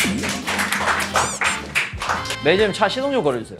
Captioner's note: scratching